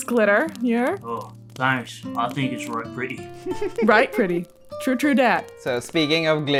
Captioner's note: laughter